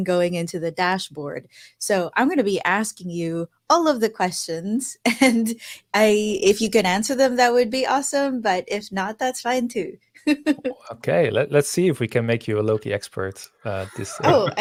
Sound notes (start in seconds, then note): 10.4 laughing